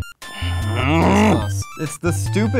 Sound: growling

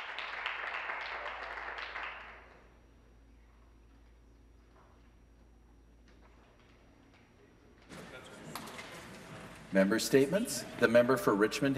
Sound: some Applause

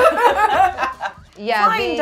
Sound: gamers laughing

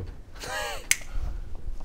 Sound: impressed click

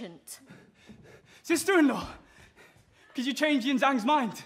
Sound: out of breath

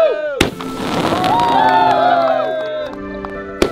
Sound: crackling sound

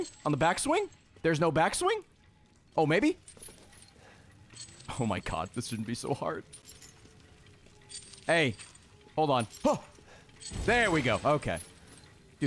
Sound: gasps

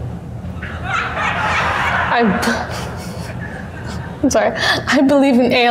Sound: students laughing

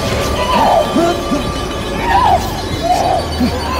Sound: screaming

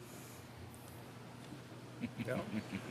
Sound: laughter

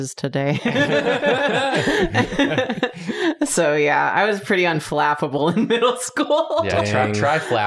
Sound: laughter

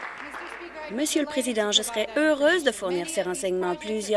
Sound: applause

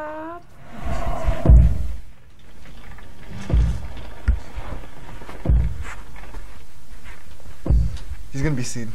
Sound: monster thumping

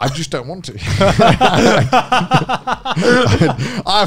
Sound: everyone laughs

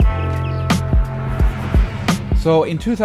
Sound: car swerves

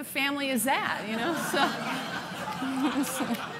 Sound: laughing

